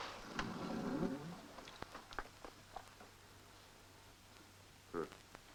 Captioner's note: clatter; door creaks